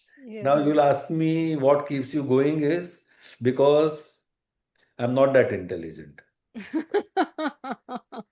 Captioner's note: laughter